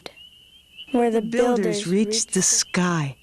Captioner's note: Elder Native American female voice